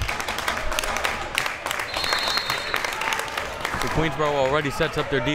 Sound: crowd members clapping

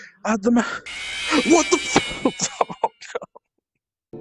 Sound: crying

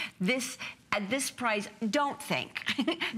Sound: laughter

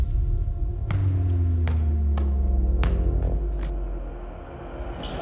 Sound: slow dramatic music; ball bouncing

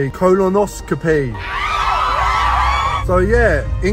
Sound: speaking nonsense; people cheering

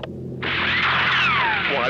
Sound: gunshot

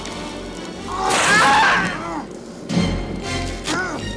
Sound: screams

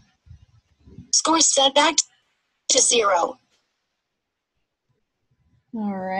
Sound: voiceover

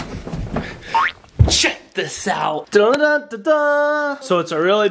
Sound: vocalizes

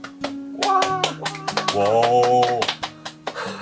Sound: claps at this point

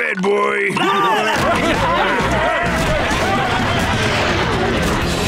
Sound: yelling

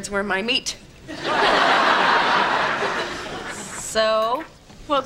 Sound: background laughter

